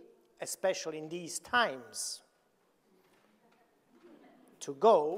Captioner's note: audience laughing